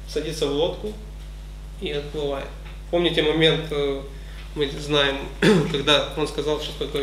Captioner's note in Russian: кашляет